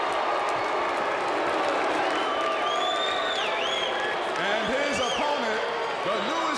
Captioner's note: crowd cheering